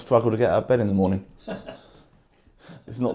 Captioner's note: man laughs